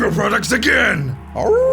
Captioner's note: howling